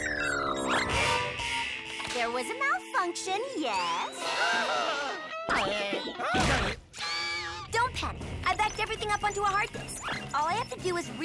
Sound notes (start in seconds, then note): 3.6 panicking